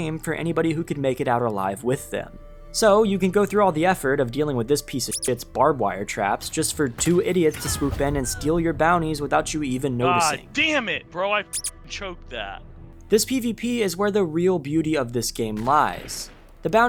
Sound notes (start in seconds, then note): 5.1 beep; 11.5 beep